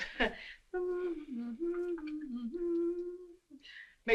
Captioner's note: annie hums tune